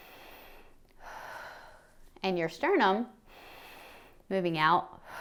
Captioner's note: inhales; exhales; inhales